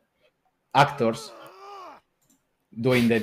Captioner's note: groaning